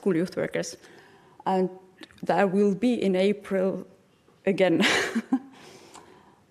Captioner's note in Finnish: chuckles